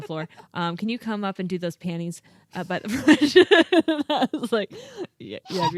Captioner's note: laughing